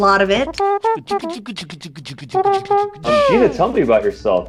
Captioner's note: beatboxing; mouth trumpet